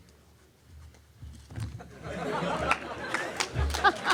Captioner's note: laughter